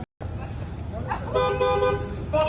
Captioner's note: car beeping